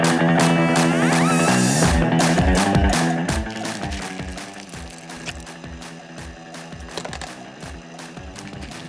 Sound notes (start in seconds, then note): 4.0 wheels whirring